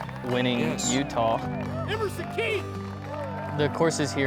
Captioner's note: applause